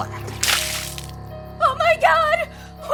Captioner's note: blood spattering